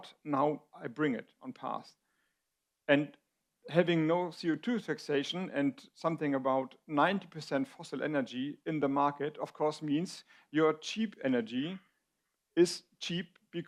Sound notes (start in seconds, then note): none